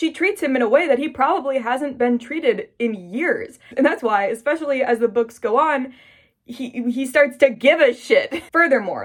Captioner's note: stammers